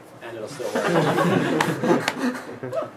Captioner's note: laughs